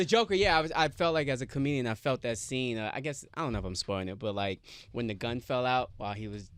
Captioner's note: none